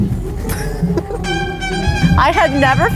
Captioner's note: laughing